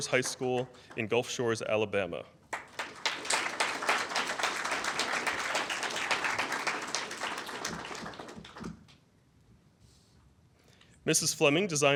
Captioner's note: applause